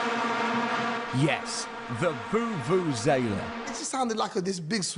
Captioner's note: vuvuzela playing; voiceover